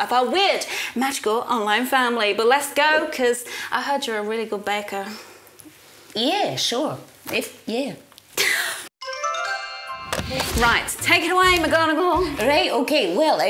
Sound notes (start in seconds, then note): 8.5 laughs; 9.0 cheerful music playing